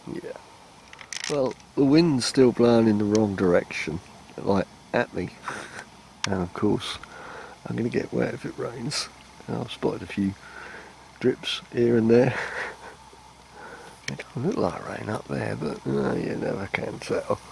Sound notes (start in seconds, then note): 5.4 laughs; 12.1 laughs; 16.9 laughs